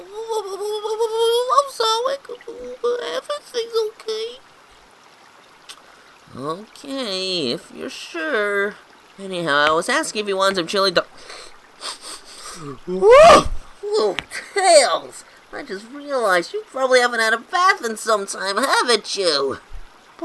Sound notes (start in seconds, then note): 11.8 sniffs